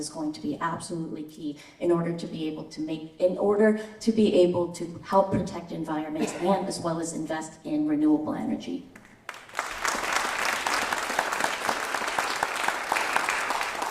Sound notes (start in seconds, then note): 9.0 applause